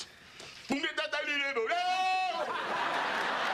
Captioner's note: speaking mock swahili